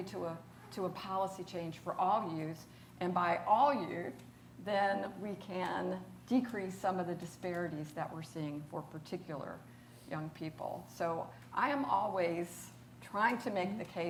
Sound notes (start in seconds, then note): none